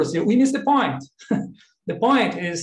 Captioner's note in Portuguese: laughs